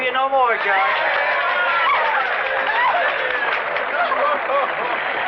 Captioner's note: crowd cheering; applause